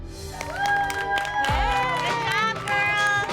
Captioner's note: cheering